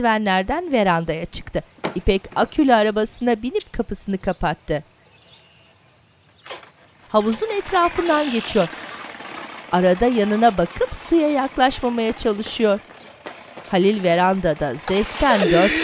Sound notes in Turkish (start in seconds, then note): 7.6 Araba sesi